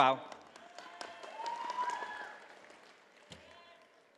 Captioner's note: audience applauding